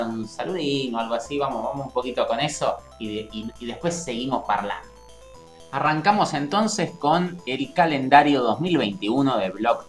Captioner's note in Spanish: "talking" in italian